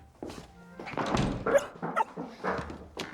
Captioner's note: dog yips